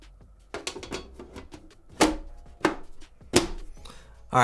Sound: metal clanking

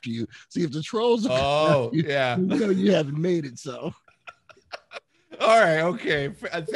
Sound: laughing

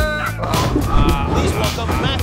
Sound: yells as flying through air; bumps while driving

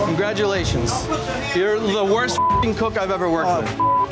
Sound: beep

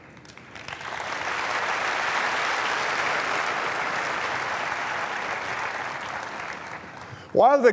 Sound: applause

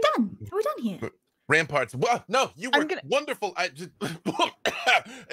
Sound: stutters; coughs

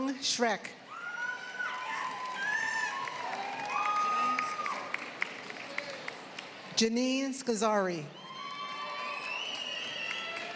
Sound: applause

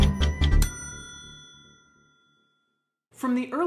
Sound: bell dinging

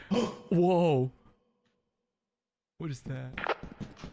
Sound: gasps

